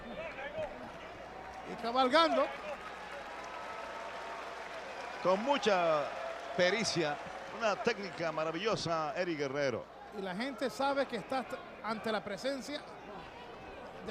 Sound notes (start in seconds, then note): 3.4 applause